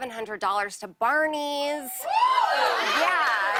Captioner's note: cheers